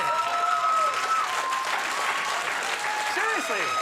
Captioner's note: audience cheers